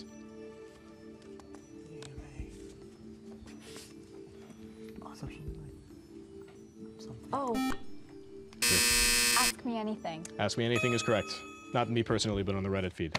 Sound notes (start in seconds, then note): 3.3 whispering; 5.8 buzzer